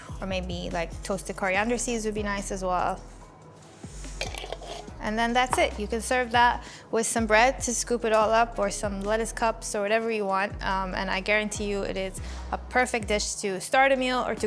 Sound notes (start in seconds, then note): 4.0 lid scraping